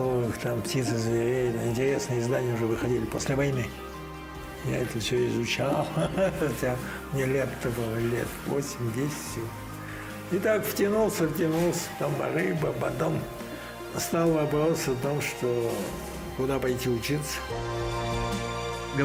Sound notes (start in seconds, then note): 5.6 laughs